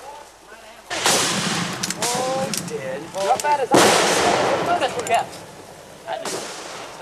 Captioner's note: guns bang; chattering